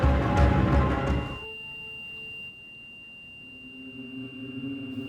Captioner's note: beeping